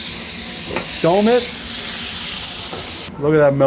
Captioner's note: meat sizzling